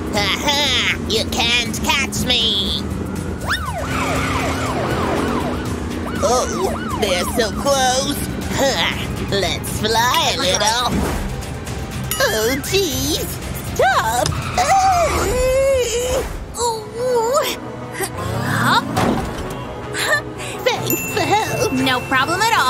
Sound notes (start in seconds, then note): 0.6 roaring; 15.3 roaring